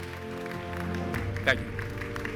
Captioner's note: audience applause; louder applause and loud cheers